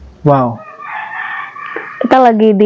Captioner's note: sound of rooster crowing